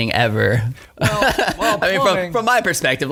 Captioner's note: laughing